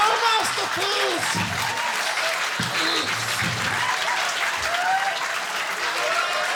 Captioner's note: audience laughing and clapping